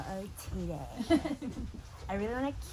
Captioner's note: laughing